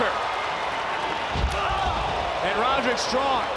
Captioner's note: crowd cheers